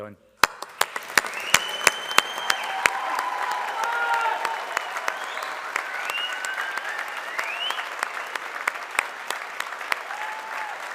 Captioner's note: applause